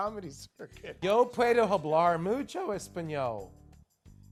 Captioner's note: speaking Spanish